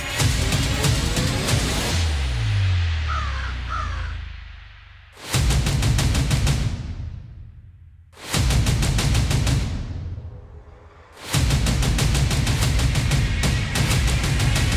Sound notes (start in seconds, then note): 2.0 intense music fades; 3.0 crow caws; 5.4 percussive music; 11.2 percussive music